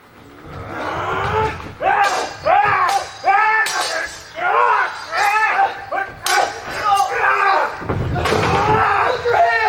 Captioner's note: swords clang